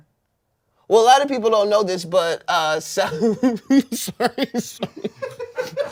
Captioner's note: laughs